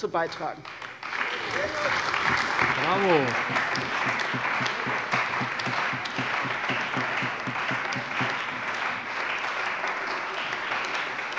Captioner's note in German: Beifall bei der CDU und dem BÜNDNIS 90/DIE GRÜNEN